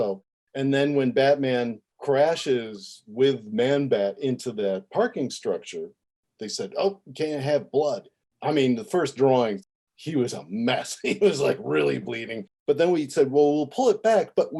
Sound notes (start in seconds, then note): 12.2 laughing